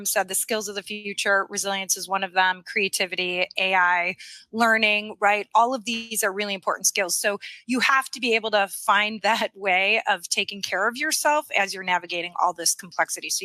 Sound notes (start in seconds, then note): none